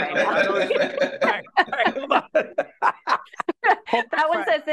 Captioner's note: laughing